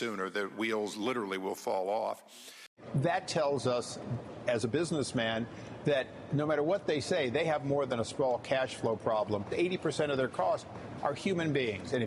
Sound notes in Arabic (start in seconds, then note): none